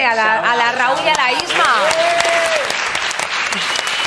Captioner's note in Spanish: Aplausos y ovaciones